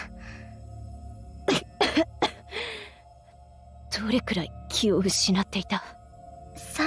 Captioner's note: cough, cough